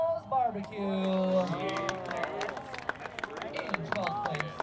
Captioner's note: audience applauds